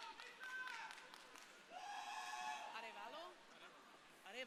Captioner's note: crowd cheering